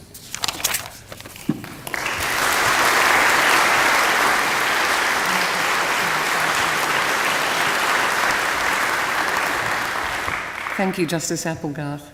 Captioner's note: applause